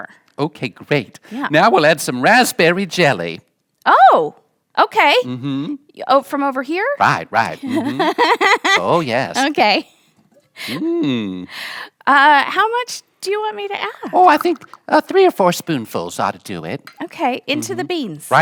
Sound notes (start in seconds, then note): 7.5 laughing